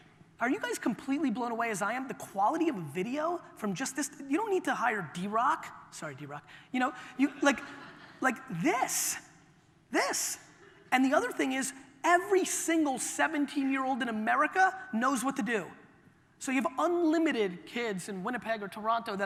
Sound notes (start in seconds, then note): 7.3 audience laughter